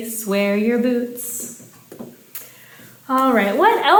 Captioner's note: finger tapping